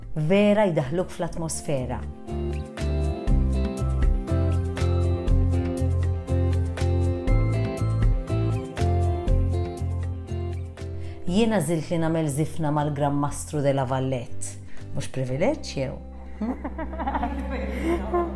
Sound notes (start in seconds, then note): 16.4 chuckles